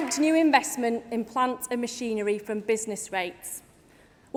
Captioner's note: applause